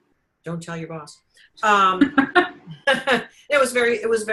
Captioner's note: giggling